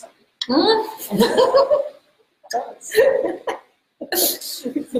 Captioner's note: laughs